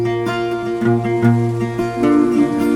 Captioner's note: rain falling